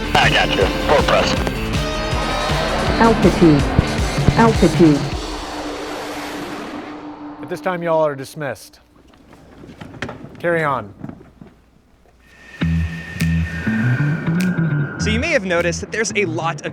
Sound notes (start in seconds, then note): 5.1 jet engine roaring; 12.4 mellow music